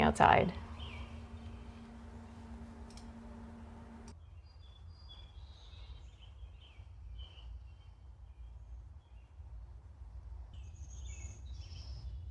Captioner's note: birds singing quietly